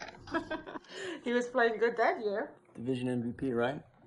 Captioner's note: laughing